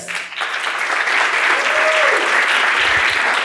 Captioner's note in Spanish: Aplausos